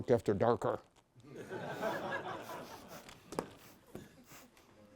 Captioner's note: laughter